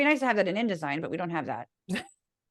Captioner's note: laugh